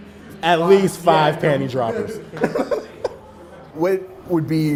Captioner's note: laughs